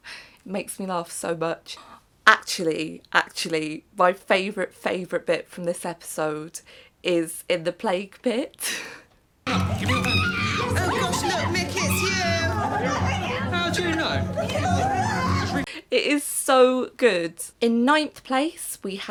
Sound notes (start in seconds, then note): 9.5 screams